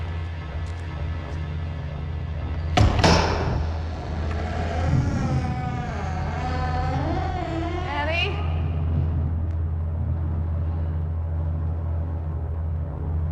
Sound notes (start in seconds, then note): 4.6 door creaking